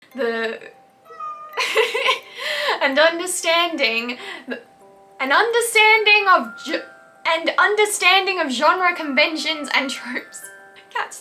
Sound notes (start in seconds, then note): 1.1 cat meows; 1.5 laughs